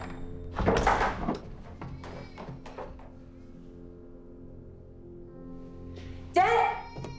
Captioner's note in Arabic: طفل يبكي